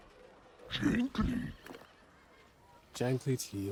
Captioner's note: growling